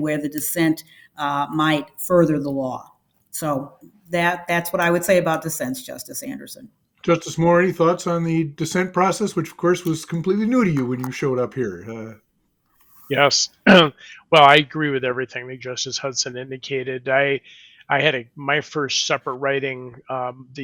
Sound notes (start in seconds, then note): 13.9 clears throat